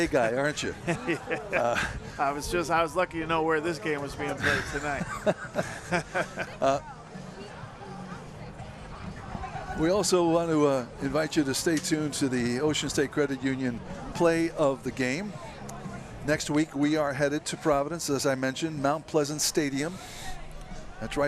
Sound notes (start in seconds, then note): 10.7 laughter